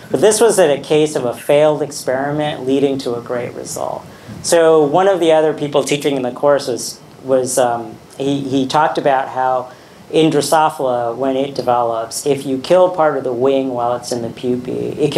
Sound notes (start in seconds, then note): none